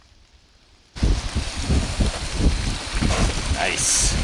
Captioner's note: water running